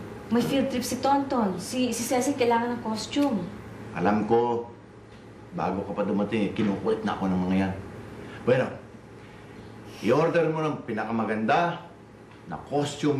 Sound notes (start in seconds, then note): none